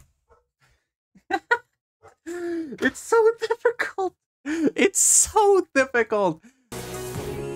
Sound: chuckles

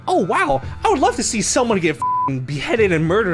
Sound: beep

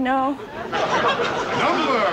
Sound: laughing

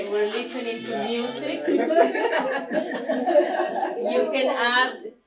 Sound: laughter

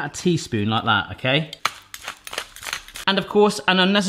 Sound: soft grinding

